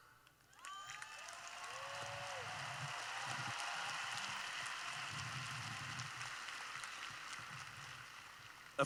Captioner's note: cheering